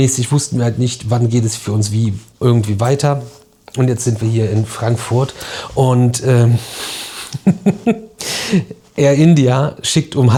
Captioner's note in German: gelächter